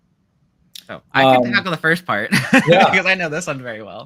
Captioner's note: laughs